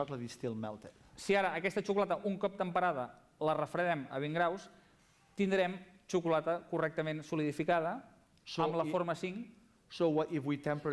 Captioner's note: non-english speech